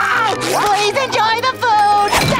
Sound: screaming

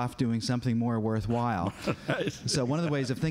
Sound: laughs

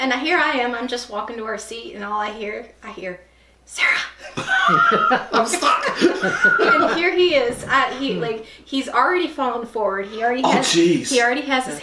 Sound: whisper-like voice & laughter

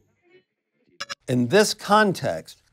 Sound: digital blip

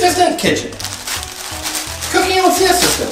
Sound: polythene crackling

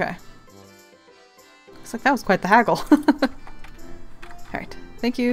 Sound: laughs

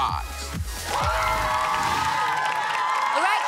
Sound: cheering

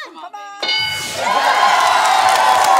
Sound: bell dings; cheering, applause

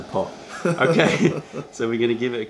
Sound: laughter

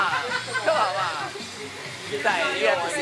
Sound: laughing

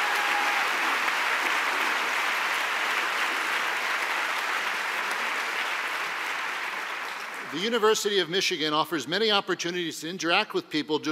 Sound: applause

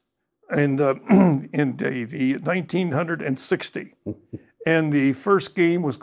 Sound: clears throat

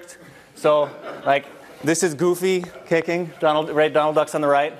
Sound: laugh

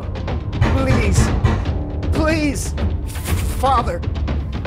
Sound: banging on door

